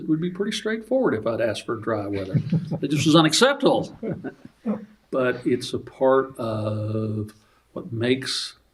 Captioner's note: laughter